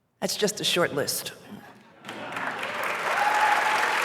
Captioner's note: applause